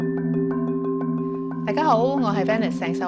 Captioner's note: Cantonese